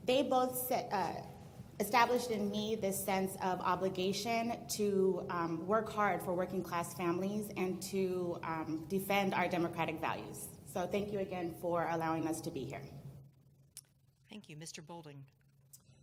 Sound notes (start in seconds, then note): 14.1 voiceover